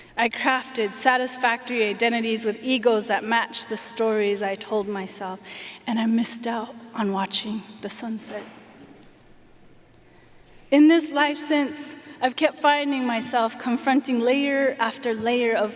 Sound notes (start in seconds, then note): none